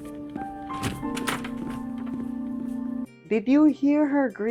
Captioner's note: door closes